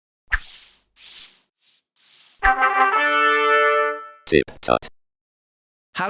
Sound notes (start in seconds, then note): 0.3 dry swishing noises; 2.5 trumpet fanfare; 4.5 electronic voice